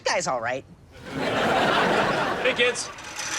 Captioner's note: audience laughs